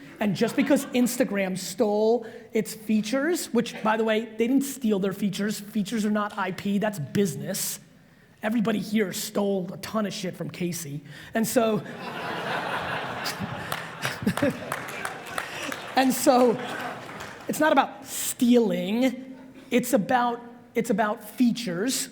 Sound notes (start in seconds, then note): 11.8 audience laughs